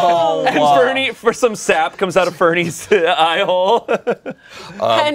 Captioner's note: laughs